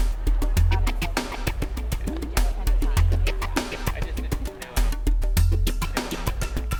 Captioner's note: indistinct background chatter